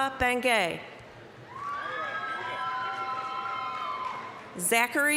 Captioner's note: applause, cheering